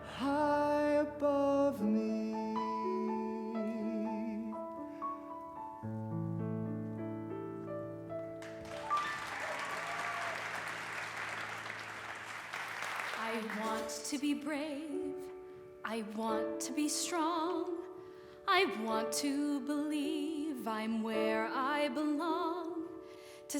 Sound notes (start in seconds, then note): 8.4 audience applause